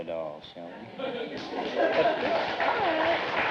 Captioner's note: applause